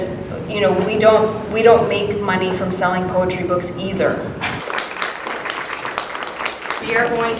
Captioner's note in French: Applaudissements